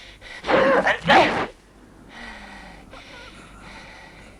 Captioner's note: Hundra panting; Hundra grunts